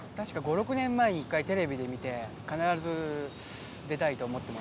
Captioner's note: in foreign language